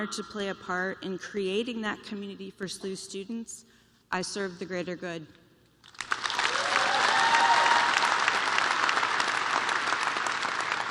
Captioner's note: cheers and applause